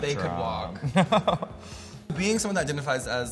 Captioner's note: laughs